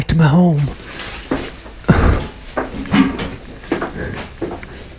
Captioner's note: feet rattling